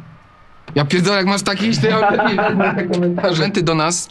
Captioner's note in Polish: śmiech